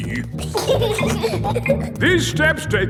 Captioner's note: giggling